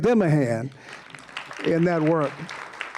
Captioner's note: applause